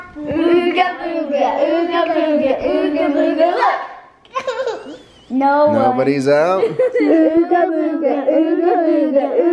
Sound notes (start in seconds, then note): 4.3 laughs